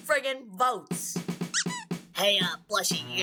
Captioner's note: squeak